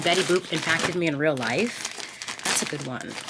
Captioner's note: bag crinkling